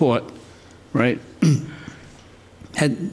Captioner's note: clears throat